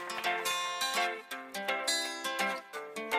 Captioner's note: applause